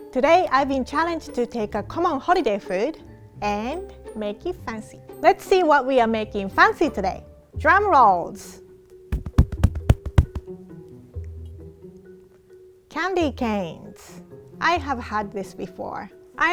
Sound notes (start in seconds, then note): 9.1 hitting chest to mimic drum roll; 11.2 mischievous music